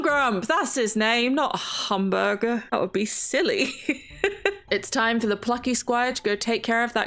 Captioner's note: laughs